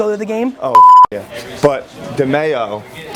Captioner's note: beep